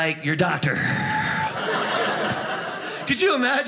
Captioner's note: audience laughing